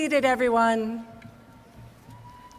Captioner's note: applause